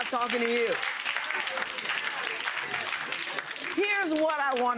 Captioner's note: audience laughs; audience claps